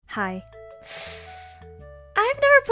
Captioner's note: breaths